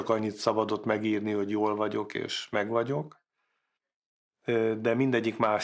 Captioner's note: speaking foreign language